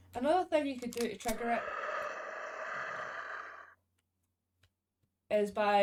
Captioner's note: ghost noise